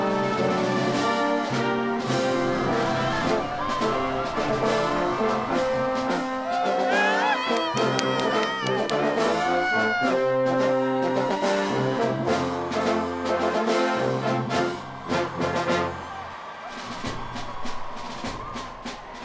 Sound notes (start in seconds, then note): 0.1 band playing; 7.0 cheering